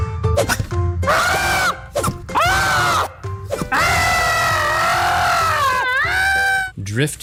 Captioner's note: screaming